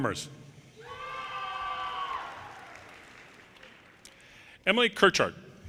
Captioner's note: audience cheers